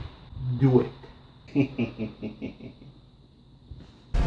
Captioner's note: laughs